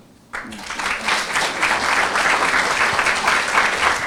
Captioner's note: applause